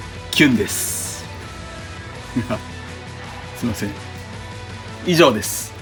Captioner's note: laughs